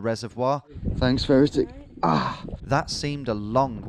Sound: softly groans

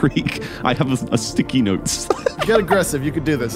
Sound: laughs

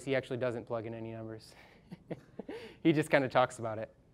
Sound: laughing

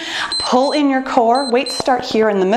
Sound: timer beeps

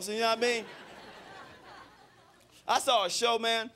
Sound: crowd laughing

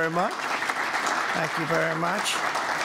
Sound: applause

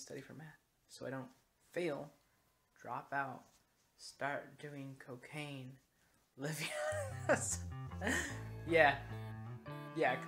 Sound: laughing

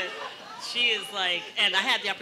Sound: murmurs

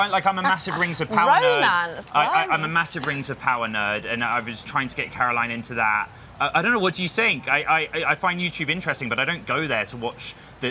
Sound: laughter

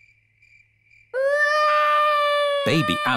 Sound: baby alexander crying

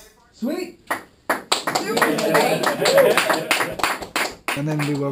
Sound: applause

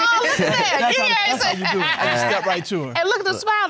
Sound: judge laughing

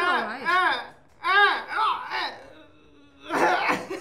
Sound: groaning; laughter

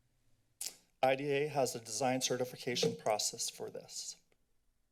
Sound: tap sound

